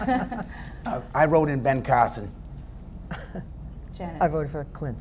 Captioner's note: laughter